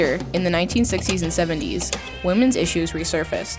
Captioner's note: lively instrumental music; image clicks